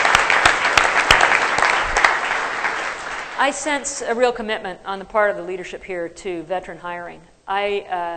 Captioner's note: applause